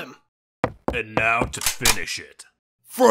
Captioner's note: gun cocks